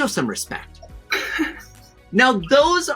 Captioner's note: chuckles